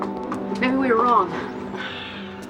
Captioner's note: sighs